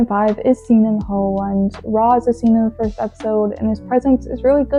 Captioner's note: none